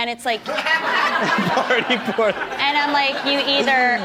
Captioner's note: laughs